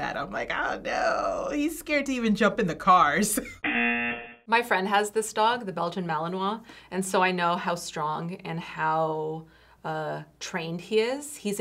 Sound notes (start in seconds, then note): 3.3 chuckles; 3.6 buzzer